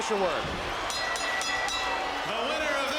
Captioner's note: bell ringing